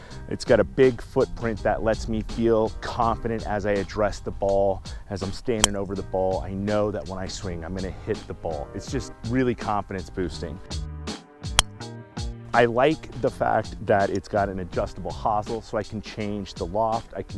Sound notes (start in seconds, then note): 11.5 club striking ball